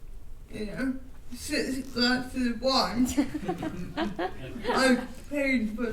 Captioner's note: attendees laughing